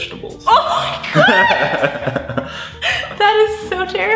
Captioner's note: laughing